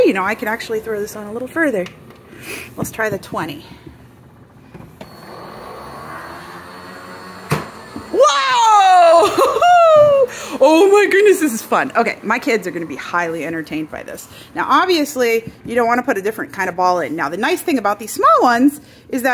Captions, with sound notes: You know, I could actually throw this on a little further. Let's try the 20. (machine whirs) Wow! Wahoo! Oh my goodness, this is fun. Okay. My kids are gonna be highly entertained by this. Now, obviously you don't wanna put a different kind of ball in. Now, the nice thing about these small ones is